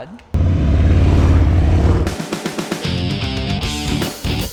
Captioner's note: engines revving; upbeat rock music